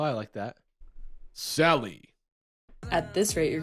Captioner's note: deep voice